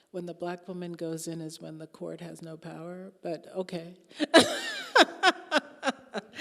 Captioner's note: laughing